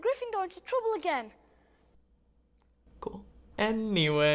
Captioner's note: awkward Silence